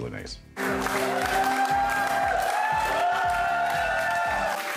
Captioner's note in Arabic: هتافات الجمهور